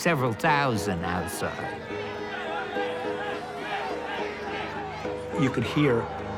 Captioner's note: crowd chanting